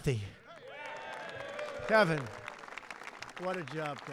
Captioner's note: applause